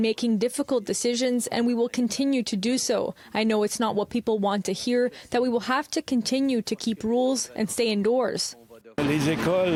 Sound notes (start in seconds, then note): 2.2 speaking in French